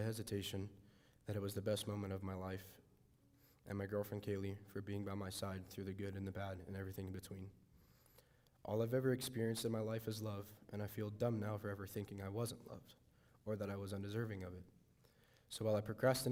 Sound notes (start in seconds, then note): none